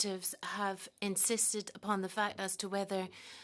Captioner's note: speaking French